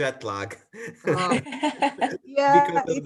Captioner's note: laugh